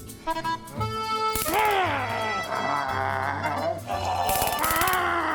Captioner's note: taser zapping; zombie walter groaning